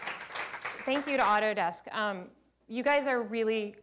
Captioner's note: applause